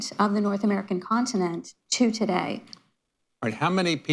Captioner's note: none